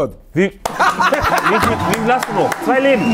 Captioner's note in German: Jubel, Applaus